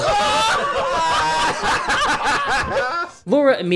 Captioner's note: cheering